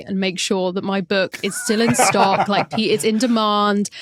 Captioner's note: others laughing